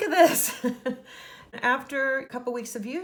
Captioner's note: laughs